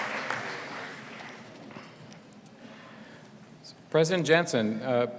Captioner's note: applause